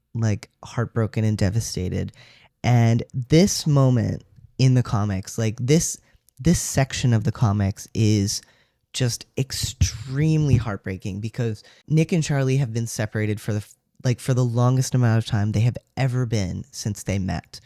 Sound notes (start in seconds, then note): none